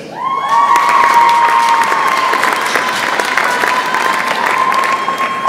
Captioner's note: audience applauds and cheers